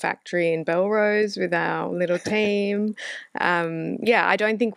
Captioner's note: laughs